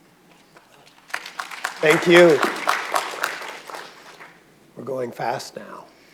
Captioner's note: audience applauding